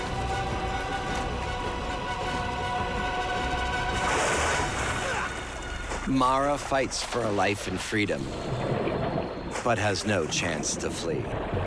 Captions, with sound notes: [groans] Marra fights for a life in freedom but has no chance to flee.